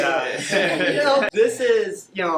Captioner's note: everyone laughing